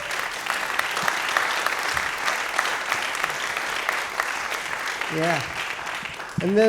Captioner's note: applause